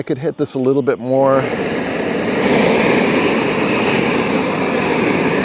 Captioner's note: torch roaring